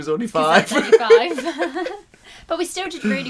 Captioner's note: giggles